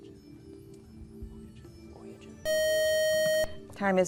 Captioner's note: buzzer